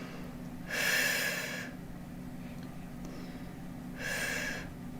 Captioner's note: woman exhales